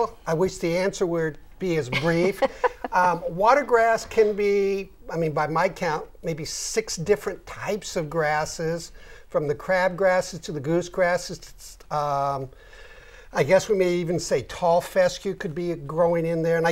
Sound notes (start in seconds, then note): 1.9 laughing